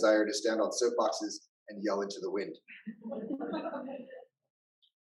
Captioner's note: laughter